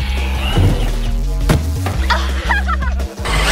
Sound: crash; laughs

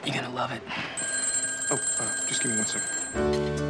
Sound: phone rings

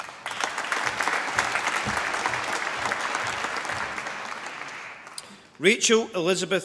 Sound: applause

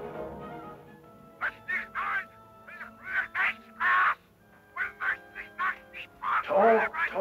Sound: Hitler speaking in foreign language

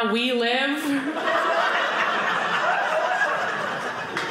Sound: audience laughing

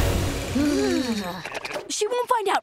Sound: shivering

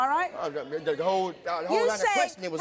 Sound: stutters

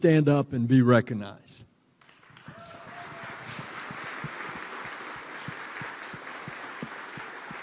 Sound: applause

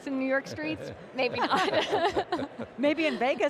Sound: laughing

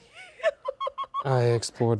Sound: giggling

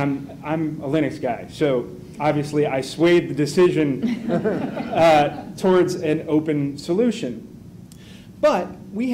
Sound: laughter

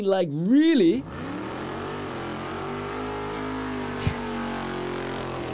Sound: engine revving

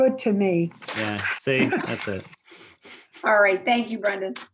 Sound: chuckles

